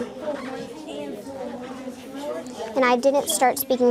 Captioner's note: students chattering